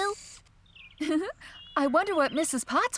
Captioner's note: giggling